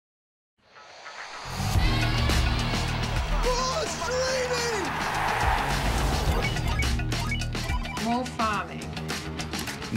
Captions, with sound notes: (upbeat music) - More streaming. (crowd cheering) (computer chiming) - More farming.